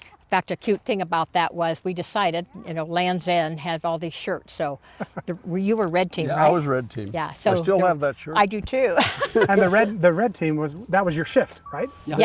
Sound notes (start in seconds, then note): 9.0 laughs